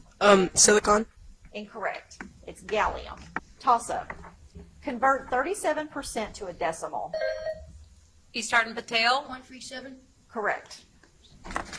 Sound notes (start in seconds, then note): 7.1 buzzer chimes